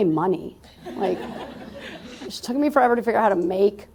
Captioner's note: laughter